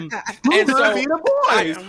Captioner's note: laughter